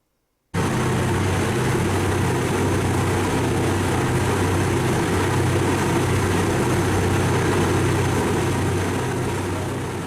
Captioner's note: loud Ferry Engine